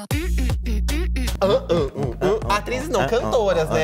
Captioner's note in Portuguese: ambos cantarolam